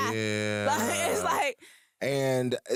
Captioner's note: laughs